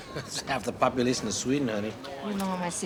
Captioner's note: chuckling